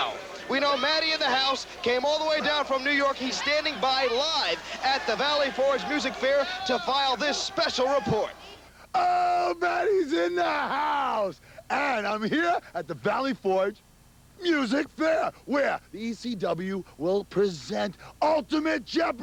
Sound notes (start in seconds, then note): 5.8 crowd cheering; 10.6 crowd cheering